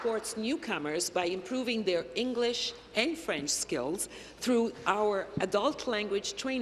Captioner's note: applause